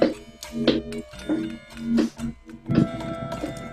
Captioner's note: dwarves chattering